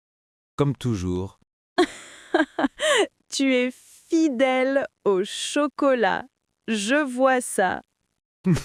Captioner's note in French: rire; rire